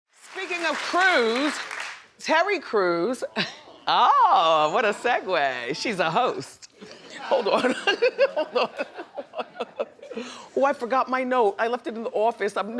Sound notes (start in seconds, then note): 8.4 laughs